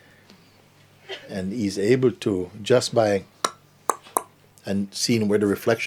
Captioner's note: Mooji clicks his tongue